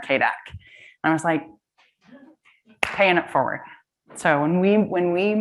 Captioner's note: claps